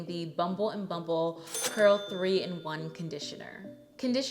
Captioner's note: bell dinging